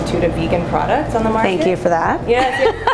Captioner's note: laughter